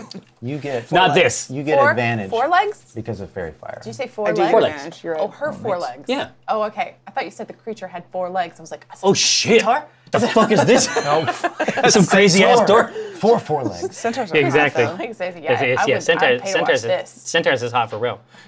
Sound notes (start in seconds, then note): 10.2 laughs